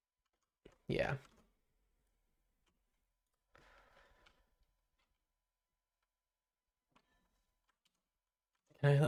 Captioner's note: silence